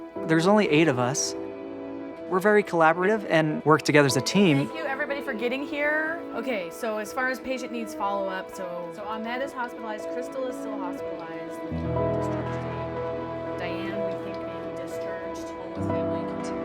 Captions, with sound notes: There's only eight of us. We're very collaborative and work together as a team. [Sounds of someone leading a meeting] Thank you for everybody for getting here. Okay, so as far as patient needs follow up. So so on, that is hospitalized. Crystal is hospitalized with [Meeting Chatter]